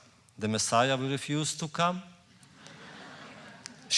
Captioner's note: laughter